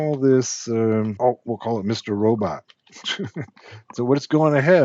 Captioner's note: chuckles